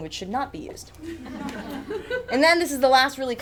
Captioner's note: audience chuckles